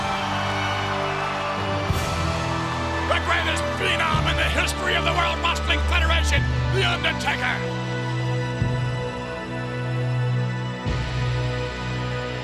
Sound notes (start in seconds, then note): 0.0 audience cheers; 8.7 ominous music continues